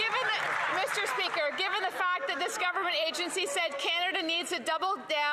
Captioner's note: some Applause